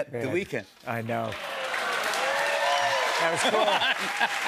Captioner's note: cheers and applause